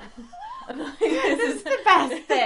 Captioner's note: laughter